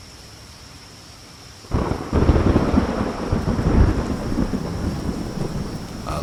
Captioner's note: thunder clap